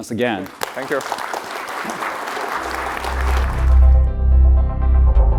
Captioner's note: applause